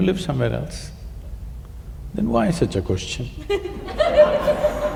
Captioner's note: laughter